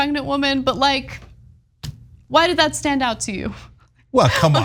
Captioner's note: laugh